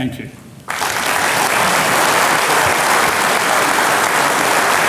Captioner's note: audience clapping